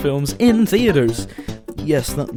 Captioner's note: inhale